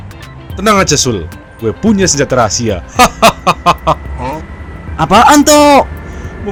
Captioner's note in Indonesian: tertawa